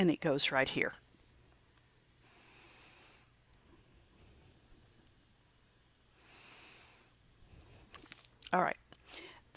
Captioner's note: long pause